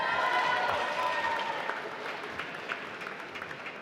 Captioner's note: applause